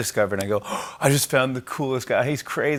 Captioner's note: gasps